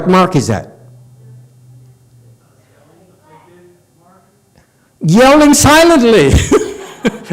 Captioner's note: laughs